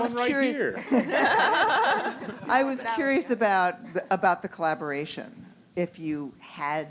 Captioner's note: laugh